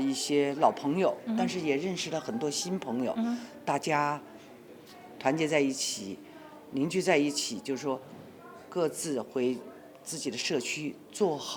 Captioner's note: speaking Chinese